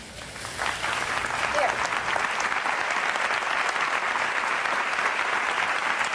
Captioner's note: audience applauding